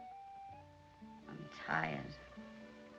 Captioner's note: none